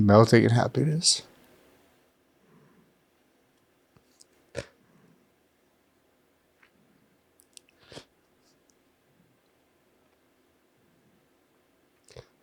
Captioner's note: sniffing